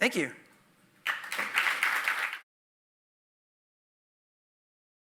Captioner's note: audience applauding